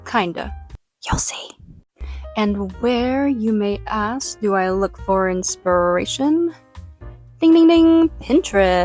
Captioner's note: whispers